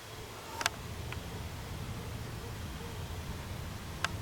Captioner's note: object clicking